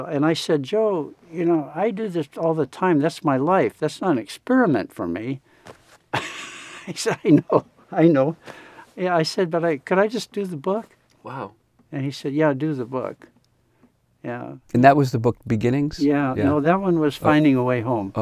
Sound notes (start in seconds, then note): 6.1 laughs